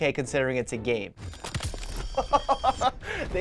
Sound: bones cracking; laughing

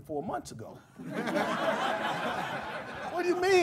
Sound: laughter

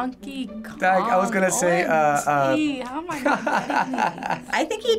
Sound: laughing

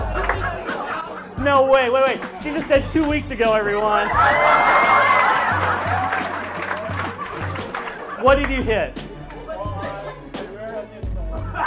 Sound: laughs; laughs

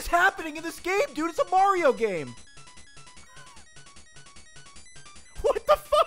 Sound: laughs

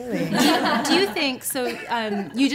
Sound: laughing

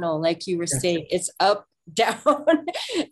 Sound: laughs

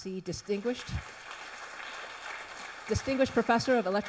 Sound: audience applauds

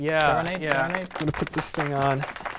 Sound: applause

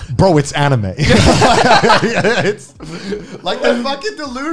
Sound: men laughing

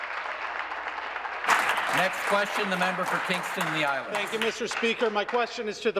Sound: applause

